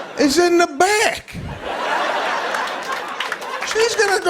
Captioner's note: laughter